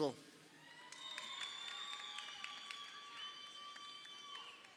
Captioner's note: crowd cheering